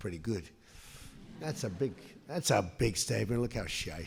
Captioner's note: laughter